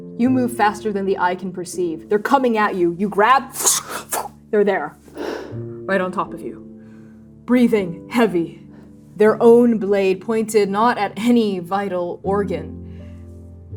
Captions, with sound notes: You move faster than the eye can perceive. They're coming at you, you grab, [fwooshing], they're there. - [exhaling] Right on top of you. - [exhaling] Breathing heavy, their own blade pointed not at any vital organ,